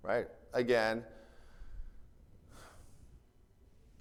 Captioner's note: sighs